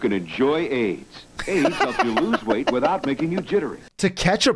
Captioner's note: laughs